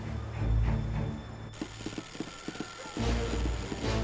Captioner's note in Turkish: Telgraf sesi